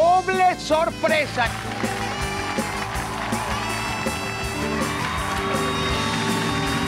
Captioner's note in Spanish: Ovación